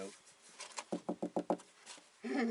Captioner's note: knocking